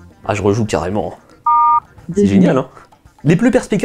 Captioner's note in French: son de touche de téléphone